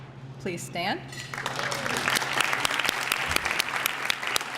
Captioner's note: applause